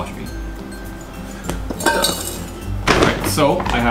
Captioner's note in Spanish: Sonido de tazón de corquetas